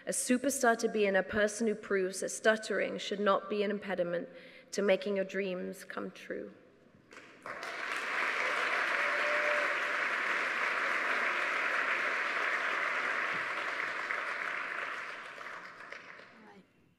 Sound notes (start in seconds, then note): 7.2 audience applauding; 9.3 audience cheering